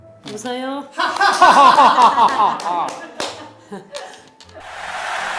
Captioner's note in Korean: 웃음